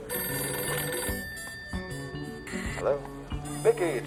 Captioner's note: phone rings